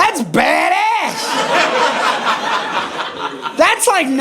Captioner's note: audience laughing